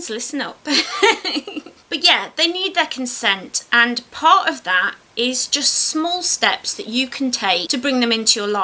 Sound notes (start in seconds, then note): 0.7 laughs